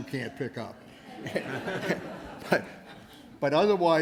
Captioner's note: laughter